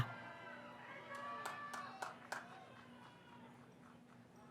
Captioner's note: cheering